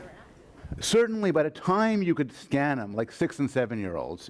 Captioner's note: voiceover